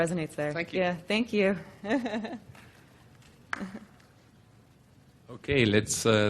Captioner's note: laughs